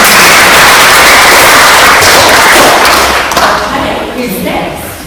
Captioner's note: claps